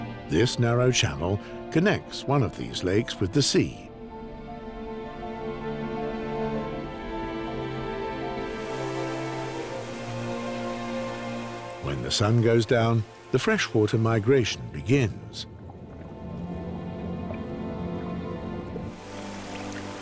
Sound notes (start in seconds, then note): none